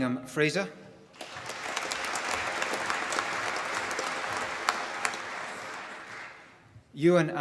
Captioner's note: applause